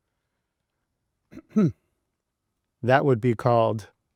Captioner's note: coughing